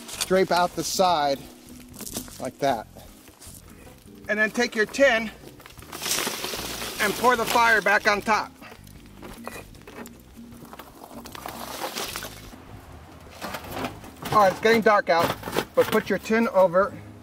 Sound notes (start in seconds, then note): 0.0 chain rattles on metal; 5.6 coals clatter onto foil; 9.5 coals clatter onto coals; 9.5 mellow electronic music; 13.2 metal rattles